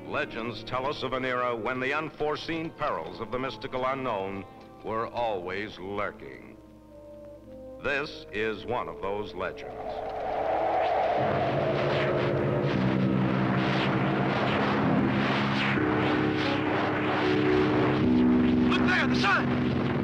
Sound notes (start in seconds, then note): 9.5 haunting orchestral music; 9.6 wind howling